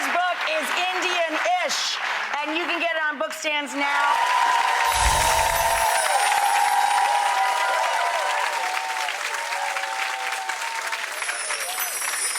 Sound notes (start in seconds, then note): 4.7 applause